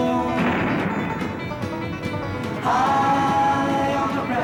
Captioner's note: thunder cracking